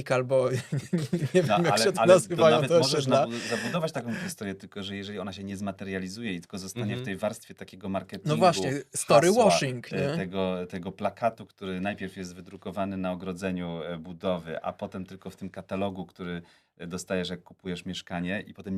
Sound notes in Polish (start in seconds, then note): 3.2 wciągnięcie powietrza; 3.9 śmiech